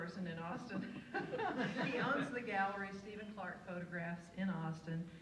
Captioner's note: laughs